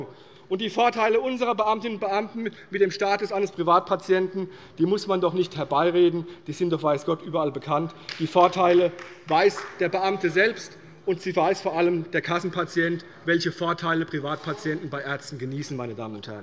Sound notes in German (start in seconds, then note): 8.0 Beifall bei Abgeordneten der CDU